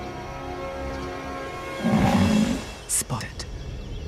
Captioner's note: grunts